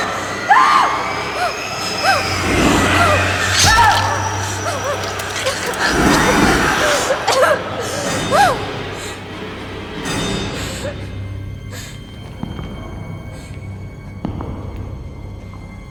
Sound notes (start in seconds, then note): 10.8 Tara sobbing; 13.0 ominous music